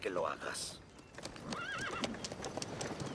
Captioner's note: neigh